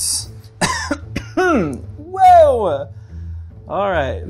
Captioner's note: coughing